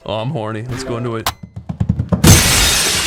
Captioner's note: rapid footsteps; pause button depressed